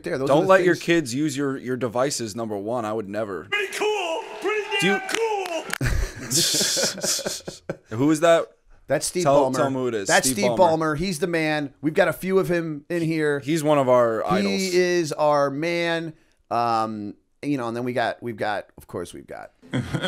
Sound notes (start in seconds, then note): 5.7 chuckle